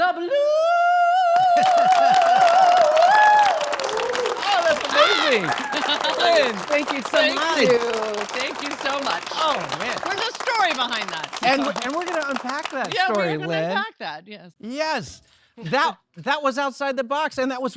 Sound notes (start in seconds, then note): 2.5 all applauding; 4.6 yells and laughs